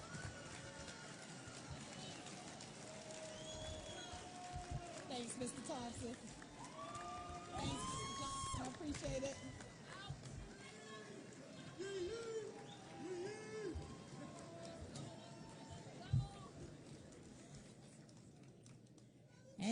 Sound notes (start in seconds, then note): 0.0 applause and Cheering; 10.4 applause and Cheering